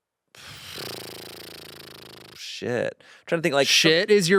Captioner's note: sighs